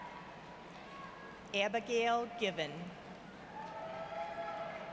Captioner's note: none